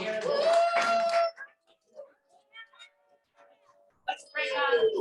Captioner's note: audience clapping and cheering